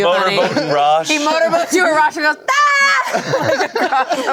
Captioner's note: screams; everyone laughs